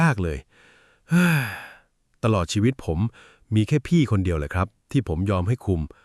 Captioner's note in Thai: เสียงถอนหายใจ